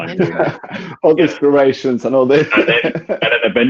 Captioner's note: laughing